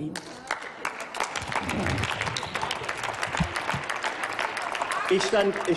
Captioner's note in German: Applaus